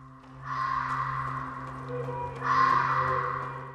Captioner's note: harsh echo